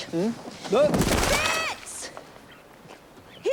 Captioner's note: Harry thudding